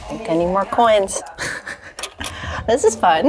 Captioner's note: laughs